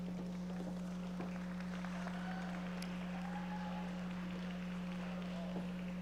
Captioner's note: audience members applauding